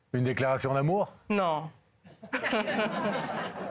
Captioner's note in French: Rires